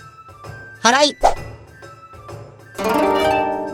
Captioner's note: sweeping